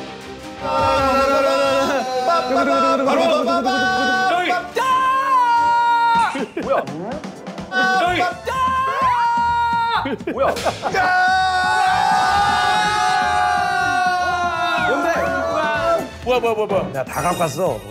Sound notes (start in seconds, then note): 10.8 they cheered anyway!